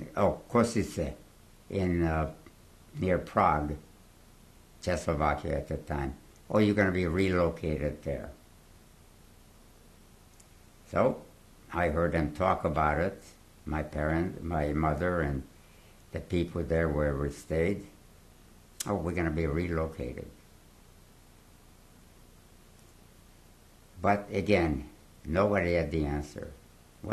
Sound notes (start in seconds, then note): 8.3 pauses for 3 seconds